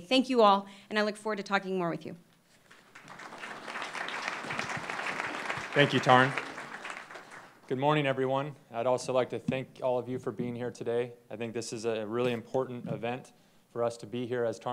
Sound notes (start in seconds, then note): 2.6 applause